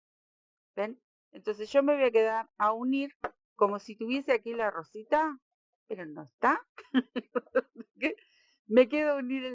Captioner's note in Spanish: risas